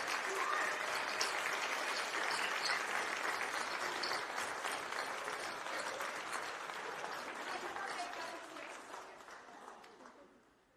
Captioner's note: applause